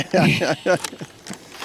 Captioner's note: laughs